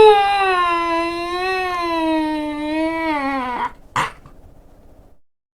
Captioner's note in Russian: все ещё детский смех